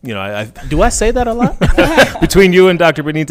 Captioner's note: all laughing